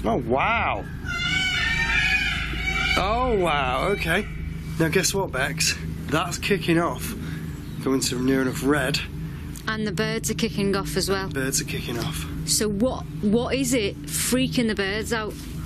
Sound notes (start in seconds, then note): 0.4 peacocks screaming